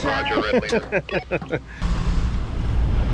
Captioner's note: radio beeps; laughs; radio chatter; engine humming